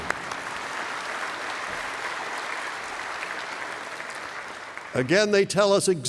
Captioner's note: applause